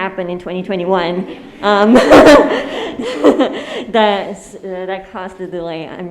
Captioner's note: audience laughing